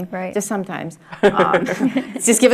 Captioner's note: laugh